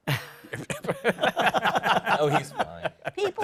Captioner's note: laughter